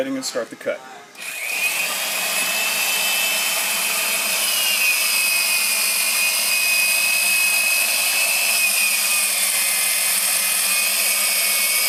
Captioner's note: machine Noise